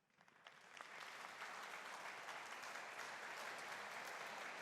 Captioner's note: audience applauding